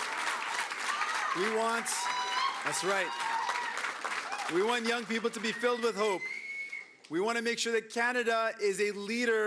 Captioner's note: cheering and Applause